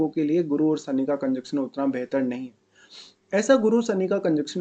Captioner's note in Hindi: नाक से की जाने वाली आवाज़